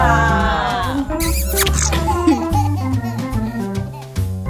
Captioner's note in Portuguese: som de beijo; risada